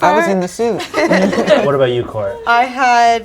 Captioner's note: group laughs